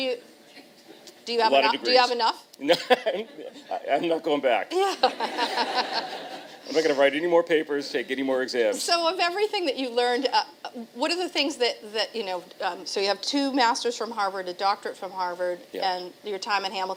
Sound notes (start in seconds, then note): 3.3 chuckle; 4.8 laughter